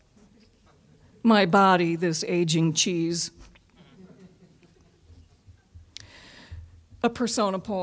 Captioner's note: audience laughing